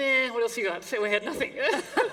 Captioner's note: laughter